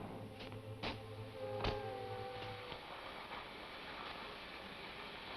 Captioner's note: flame hisses